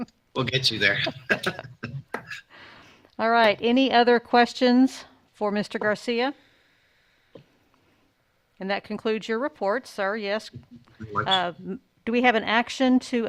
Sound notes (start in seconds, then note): 0.8 chuckles; 0.9 all chuckles